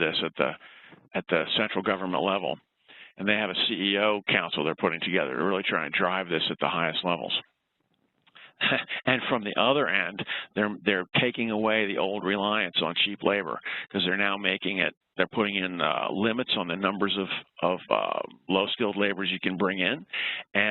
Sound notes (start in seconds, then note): 8.4 laughs